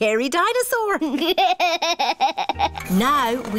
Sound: chuckles

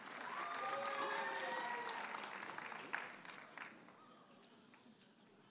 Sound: audience cheers and applauds

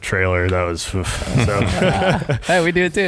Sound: sighing

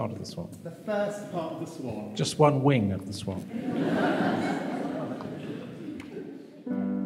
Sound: laughter

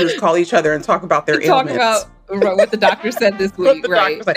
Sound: laughs

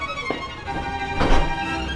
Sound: bang

